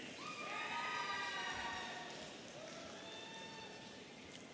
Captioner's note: audience cheering